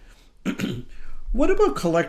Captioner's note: clears throat